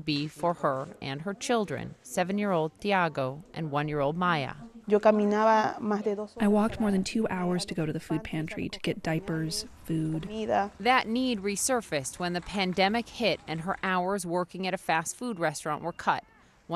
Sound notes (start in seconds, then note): 4.8 speaking in foreign language